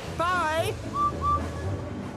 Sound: whistles

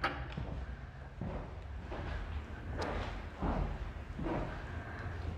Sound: footsteps approaching

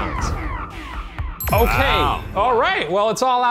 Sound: ding

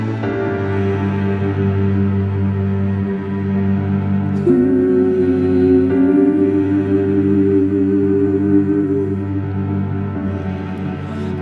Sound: humming

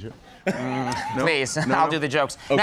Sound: laughs

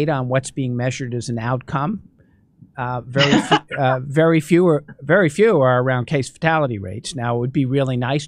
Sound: laughter

